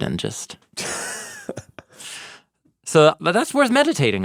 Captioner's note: laughing